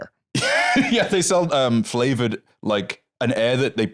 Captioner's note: laughs